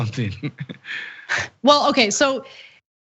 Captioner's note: laugh